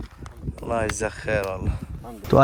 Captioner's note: Arabic